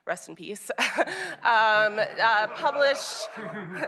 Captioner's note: laughter